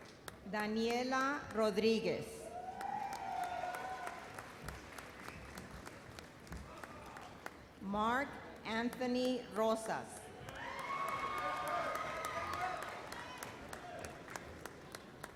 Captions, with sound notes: Daniela Rodriguez. (audience applauds) Mark Anthony Rosas. (audience cheers)